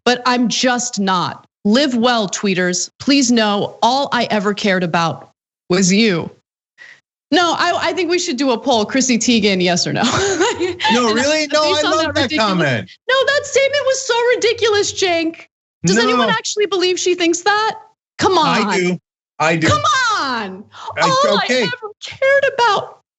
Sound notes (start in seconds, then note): 10.1 laugh